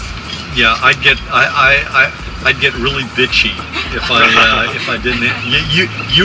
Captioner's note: laughter